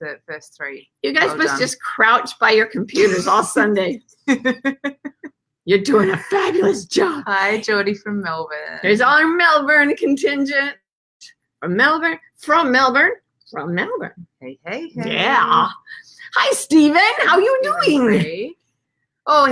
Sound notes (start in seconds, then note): 3.6 laughs out loud